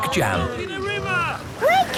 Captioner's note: all shouting